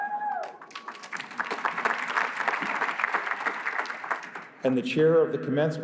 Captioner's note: applause